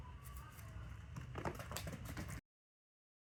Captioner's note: paws pattering